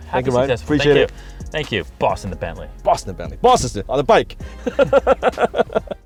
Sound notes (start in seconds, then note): 4.6 laughing